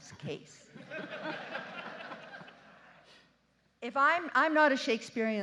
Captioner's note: justices and audience laughing